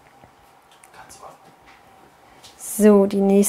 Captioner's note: man, whispers